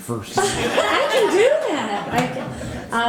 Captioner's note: all laughing